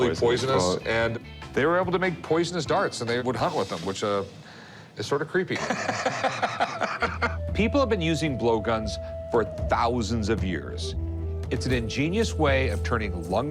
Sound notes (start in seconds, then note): 5.5 laughter